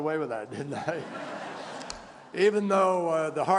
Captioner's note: laughter